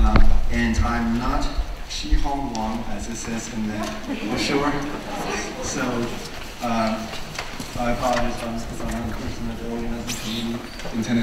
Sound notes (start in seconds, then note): 3.7 audience laughs